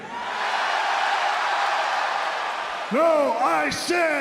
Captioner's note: crowd cheers